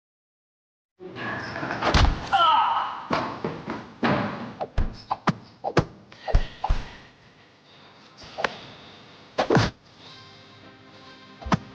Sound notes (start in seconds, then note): 1.8 body thudding